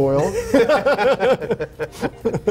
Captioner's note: laughter